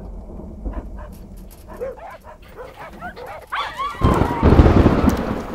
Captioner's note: Dogs barking